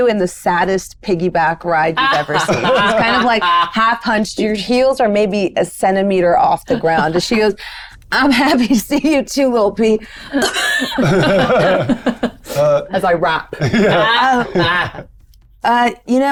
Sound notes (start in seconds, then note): 10.3 group laughs; 10.3 coughs; 13.5 laughs